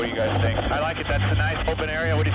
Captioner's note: person Over Radio